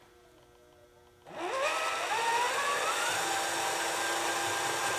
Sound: RC truck whirring

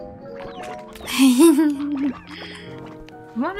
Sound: giggling

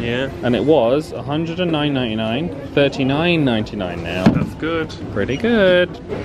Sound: guest chatter reverberates around mall

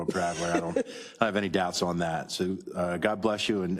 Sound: laugh

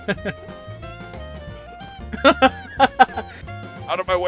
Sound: laughter

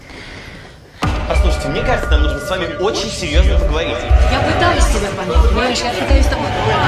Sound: female voice

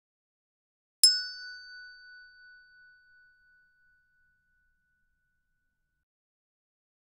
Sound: sound hand bell

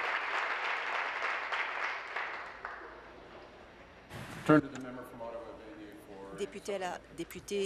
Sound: applause

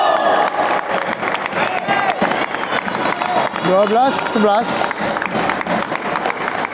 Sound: applause

